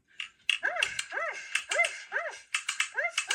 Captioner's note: dog barks